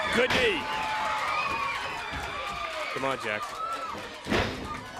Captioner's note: crowd cheering